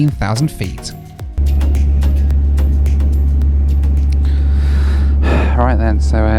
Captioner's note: engines rumble